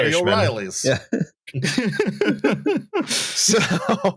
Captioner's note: chuckles; laughter peters out